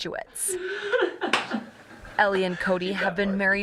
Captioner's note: a women laughs